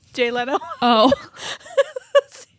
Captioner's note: laughs